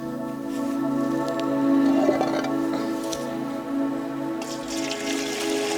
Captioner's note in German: sanfte, fröhliche Musik; Wasser plätschert